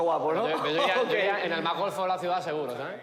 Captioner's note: laughs